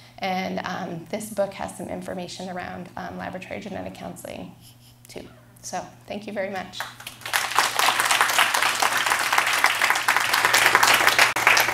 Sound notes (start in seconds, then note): 6.8 applause